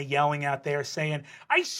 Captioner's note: southern soccer mom voice